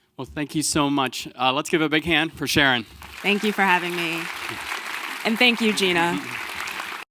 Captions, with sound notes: - Thank you so much. Let's give a big hand for Sharon. (audience clapping) - Thank you for having me. And thank you, Gina.